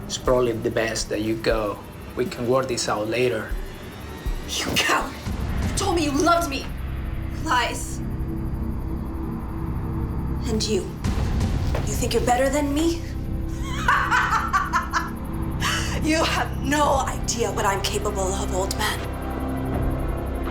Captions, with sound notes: - It's probably the best that you go. We can work this out later. - You coward! You told me you loved me. Lies. And you, you think you're better than me? (laughing) You have no idea what I'm capable of old man.